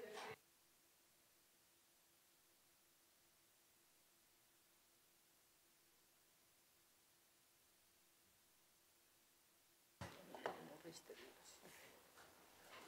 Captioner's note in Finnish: taustakeskustelua